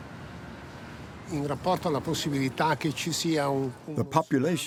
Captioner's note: speaking in foreign language